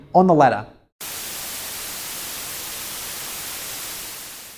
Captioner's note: static